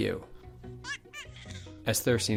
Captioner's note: baby noises